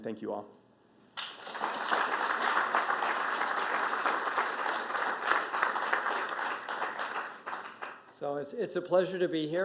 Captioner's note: applause